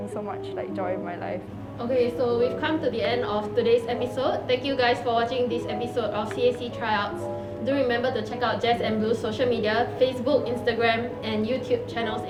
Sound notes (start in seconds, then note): none